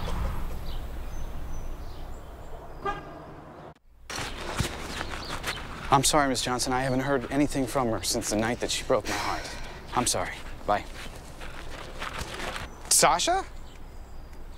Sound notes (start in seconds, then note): 2.8 car lock honk